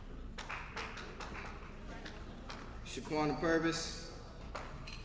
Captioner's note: applause